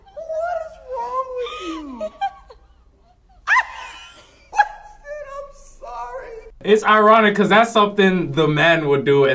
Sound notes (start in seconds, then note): 3.7 laughs